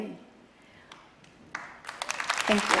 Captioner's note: applause